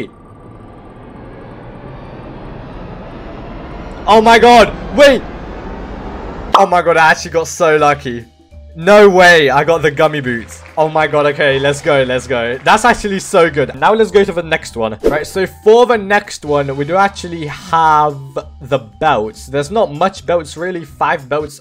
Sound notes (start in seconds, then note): 0.0 wheel moving in circles fast noise; 5.5 reveal noise